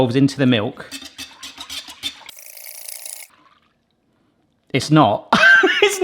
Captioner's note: hand whisk rattles; laughs